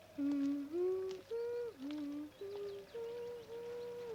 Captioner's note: Heidi humming